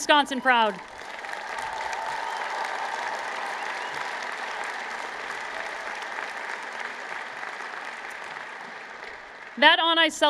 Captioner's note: applause